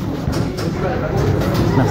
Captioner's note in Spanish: Puerta se abre